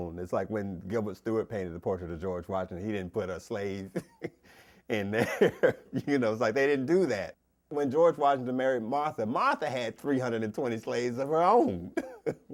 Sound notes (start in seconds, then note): 5.0 laughs; 11.8 chuckles